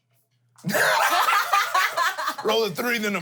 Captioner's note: everyone laughs